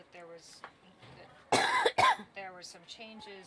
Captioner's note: coughs